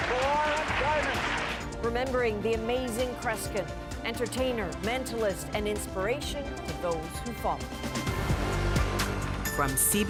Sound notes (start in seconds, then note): 0.0 applause